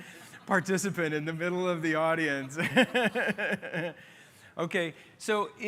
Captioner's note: laughter